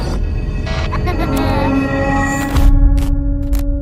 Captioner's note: child laughs